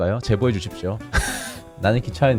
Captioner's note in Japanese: くく